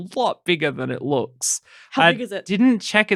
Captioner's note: excited